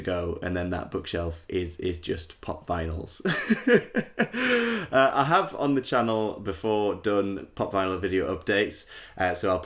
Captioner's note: laughter